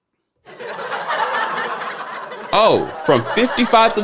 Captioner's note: people laughing